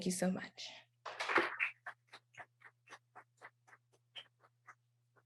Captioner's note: applause